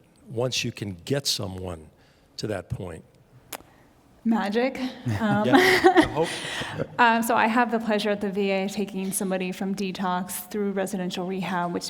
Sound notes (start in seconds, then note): 4.8 laughing; 5.0 panelists laughing